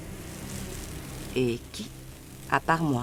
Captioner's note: grains clattering